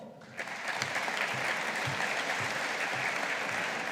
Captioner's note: audience applauding